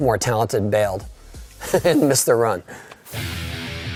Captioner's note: laughing; upbeat music